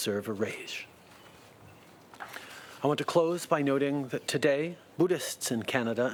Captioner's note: speaking French